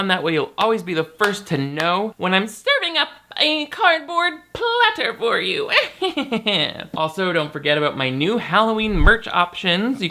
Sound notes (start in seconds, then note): 5.7 chuckling